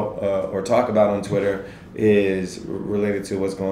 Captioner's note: none